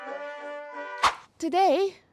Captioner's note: woosh